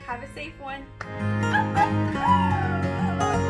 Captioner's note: imitates Coyote howls